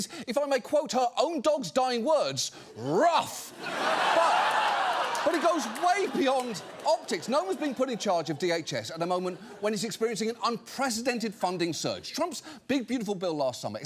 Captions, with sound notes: if I may quote her own dog's dying words, ruff. (AUDIENCE LAUGHS) But it goes way beyond optics. Noem has been put in charge of DHS at a moment when it's experiencing an unprecedented funding surge. Trump's Big Beautiful Bill last summer